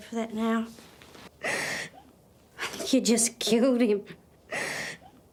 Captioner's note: sobs